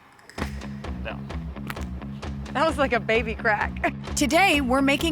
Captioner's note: soft whip crack